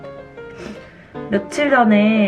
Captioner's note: sniffs